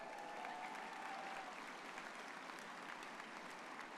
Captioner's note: graduates clapping